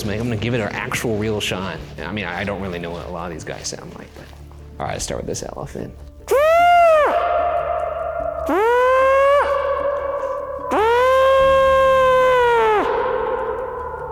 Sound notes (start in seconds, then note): 6.2 mimics elephant call; 6.4 voice echoing